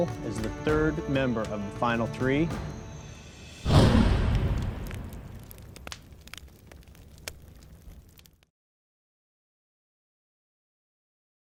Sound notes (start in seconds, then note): 2.7 fire crackling; 3.4 logo whooshes